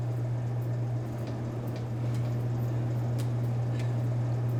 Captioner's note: vending machine whirring